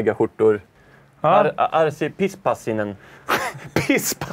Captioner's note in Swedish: skratt